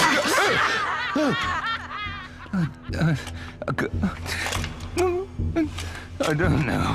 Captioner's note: stammering, whimpering